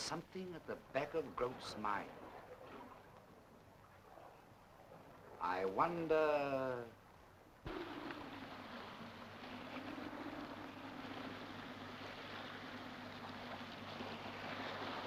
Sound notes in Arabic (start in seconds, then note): 7.6 رياح تعوي; 7.7 أمواج تتناثر